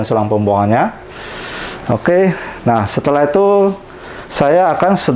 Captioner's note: inhale